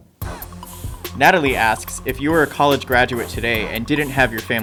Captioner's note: voiceover